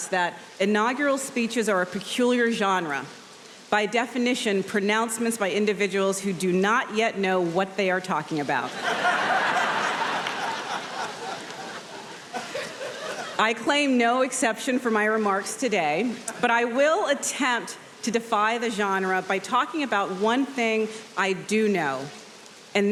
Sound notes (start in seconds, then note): 8.7 audience laughing